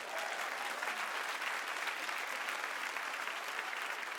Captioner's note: audience claps